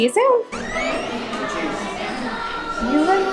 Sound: door creaks

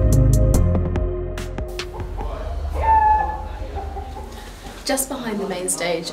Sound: cockerel squawk

